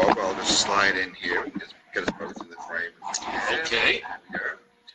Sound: murmurs

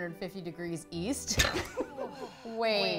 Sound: girls laugh

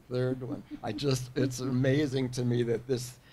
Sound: person laughing

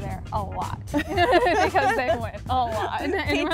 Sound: laughter

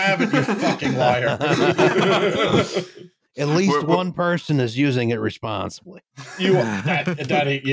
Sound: laughter

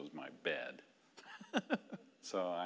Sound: laughing

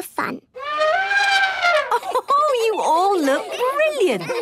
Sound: trumpeting; Mummy Pig laughing

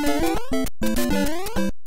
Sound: overworld music; jump sound

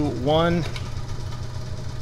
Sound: switch clicks

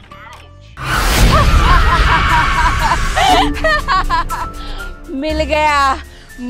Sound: laughing

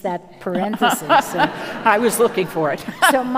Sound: audience laughing

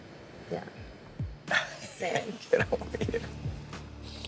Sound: laughs

